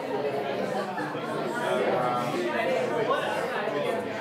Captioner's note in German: Lachen, Stimmengewirr